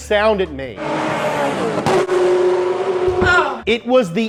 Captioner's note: F40 engine revving